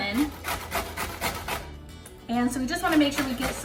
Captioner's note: grating